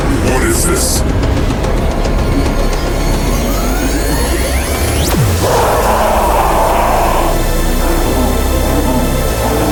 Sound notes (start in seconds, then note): 1.3 excited music; 5.3 Lideri screaming